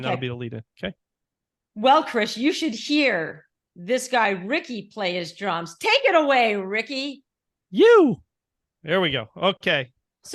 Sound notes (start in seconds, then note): 7.8 vocalizing